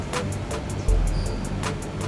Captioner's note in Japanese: ひそひそ声